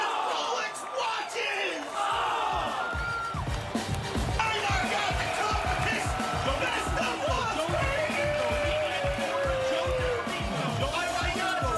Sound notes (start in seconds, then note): 4.1 applause